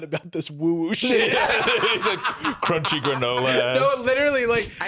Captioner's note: both laugh